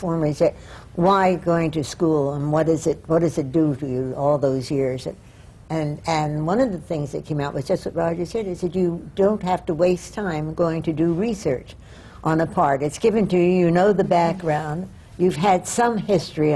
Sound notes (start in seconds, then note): none